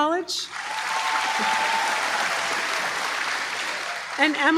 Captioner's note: applause